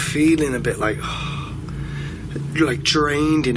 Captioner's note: sighs